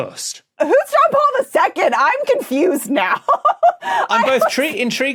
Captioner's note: laughs